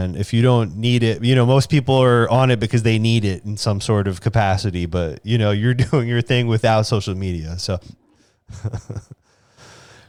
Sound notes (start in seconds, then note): 8.5 laughs